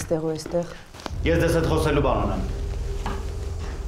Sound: Zhozef speaking in foreign language

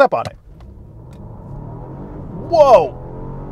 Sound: Volvo engine roaring

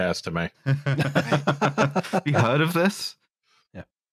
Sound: laughter

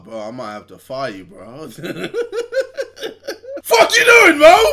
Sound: laughs

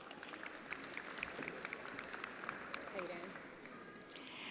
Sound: attendees applauding

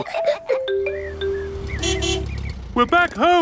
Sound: laughs; horn honking

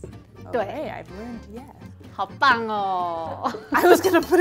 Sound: speaking in mandarin

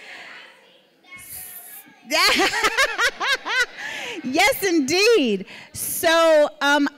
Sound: laughing

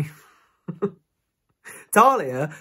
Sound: giggles

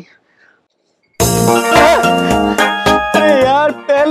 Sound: phone Ringing

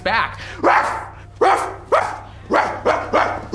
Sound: barking

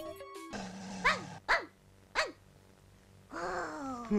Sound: barking

